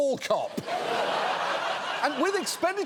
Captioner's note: audience laughs